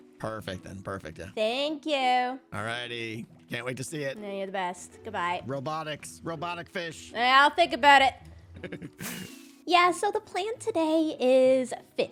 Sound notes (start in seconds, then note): 8.5 laughs